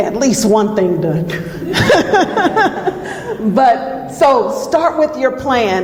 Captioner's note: laughs